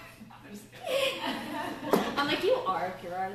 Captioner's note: laughter